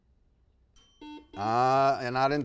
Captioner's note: timer chimes; buzzer beeps